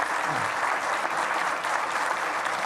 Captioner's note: audience clapping